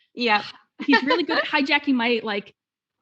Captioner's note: both laughing